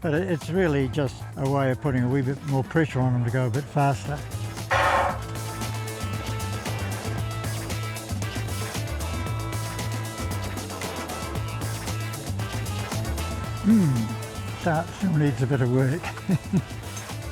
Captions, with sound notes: But it's really just a way of putting a wee bit more pressure on him to go a bit faster. (ELECTRONIC GUNSHOT) (FUNKY HOUSE MUSIC) Mm. Start needs a bit of work. (GIGGLES)